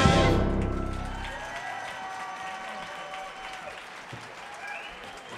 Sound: audience cheers and applauds

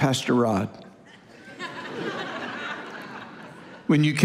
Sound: congregation laughing

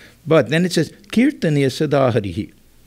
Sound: non-english speech

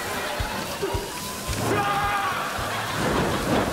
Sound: screams

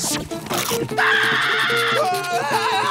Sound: screaming

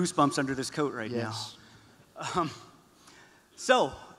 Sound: none

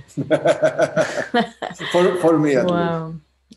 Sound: laughter

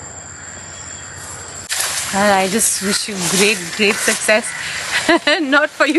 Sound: laughs

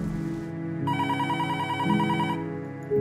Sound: phone ringing

